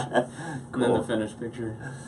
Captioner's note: laughing